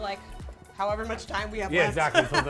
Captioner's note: laughs